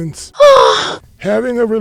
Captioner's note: woman moans